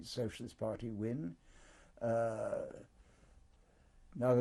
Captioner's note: pauses for 3 seconds